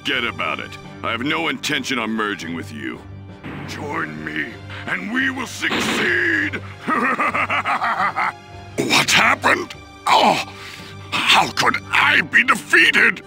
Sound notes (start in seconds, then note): 6.6 evil laugh